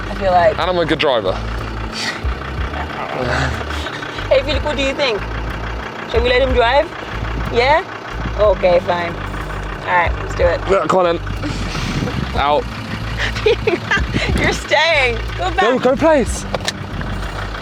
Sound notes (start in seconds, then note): 2.8 mutters; 14.0 laughs